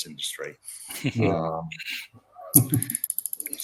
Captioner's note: chuckles